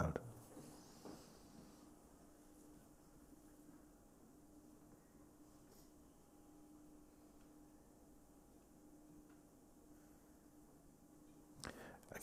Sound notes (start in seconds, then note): 2.6 silence